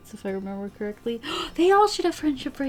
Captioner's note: gasps